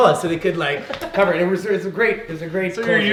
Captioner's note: laughing